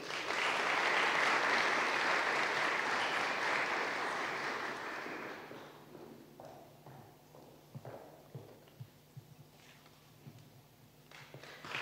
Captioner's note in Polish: oklaski